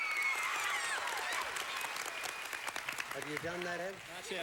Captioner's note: audience applauding